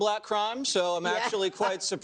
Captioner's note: laughs